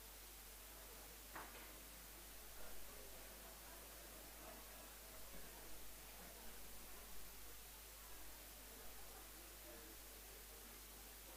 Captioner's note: background chatter